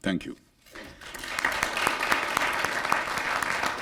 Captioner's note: applause